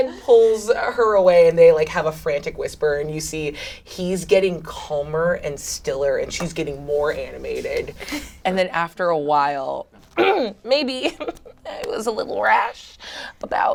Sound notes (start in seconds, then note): 10.3 clears throat